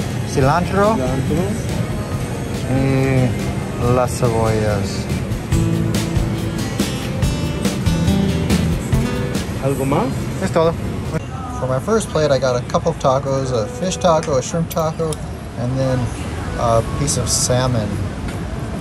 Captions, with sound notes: (speaking Spanish) (upbeat music) (speaking Spanish) From my first plate, I got a couple of tacos, a fish taco, a shrimp taco, and then a piece of salmon.